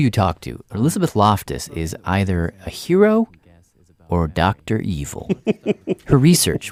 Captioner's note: laughs